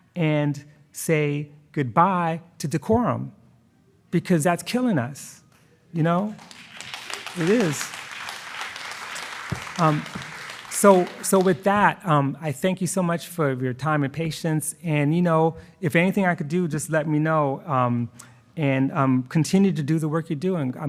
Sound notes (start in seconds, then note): 6.1 attendees applauding